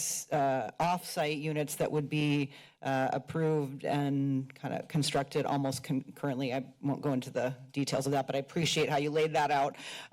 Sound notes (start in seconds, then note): none